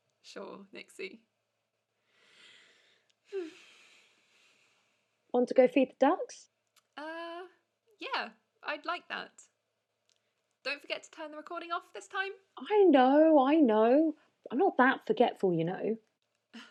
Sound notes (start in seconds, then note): 3.2 Bella sighs